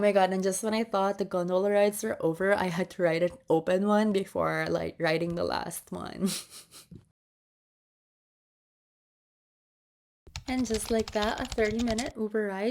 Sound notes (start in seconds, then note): 6.2 chuckles nervously